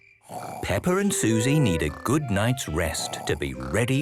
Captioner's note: Peppa and Suzy snoring